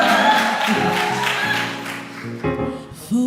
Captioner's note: applause